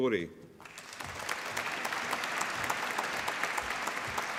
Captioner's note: applause